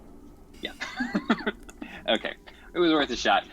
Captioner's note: chuckles